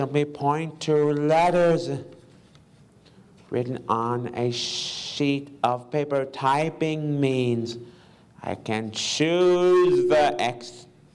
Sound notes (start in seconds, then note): none